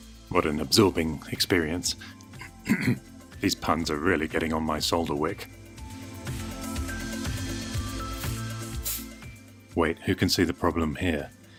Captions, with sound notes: What an 'absorbing' experience (clears throat) These puns are really getting on my solder wick.. Wait.. who can see the problem here?